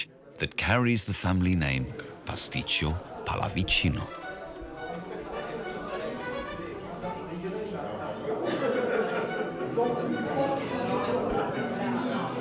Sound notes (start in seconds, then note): 3.3 upbeat music; 4.3 people chattering